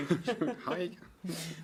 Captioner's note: laughter